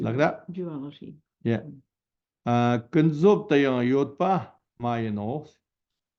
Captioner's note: tibetan